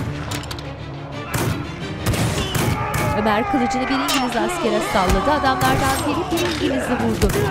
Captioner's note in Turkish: Silah sesleri; Bağırma sesleri